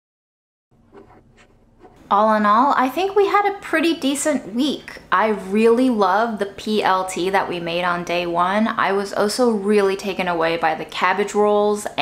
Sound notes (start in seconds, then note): 0.9 images shuffling